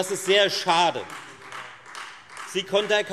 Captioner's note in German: Beifall Freie Demokraten